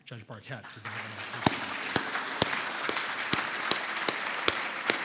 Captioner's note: audience applauding